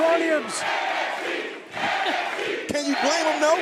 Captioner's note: fans chanting